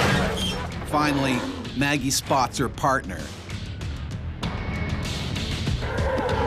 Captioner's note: voiceover